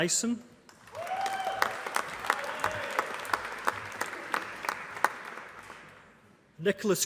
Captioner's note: applause